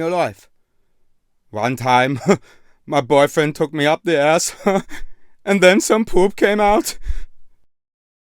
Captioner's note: chuckle